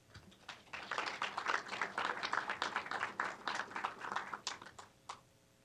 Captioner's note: applause